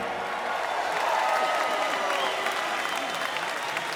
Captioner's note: applause